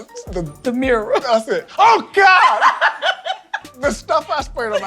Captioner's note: Tabitha laughs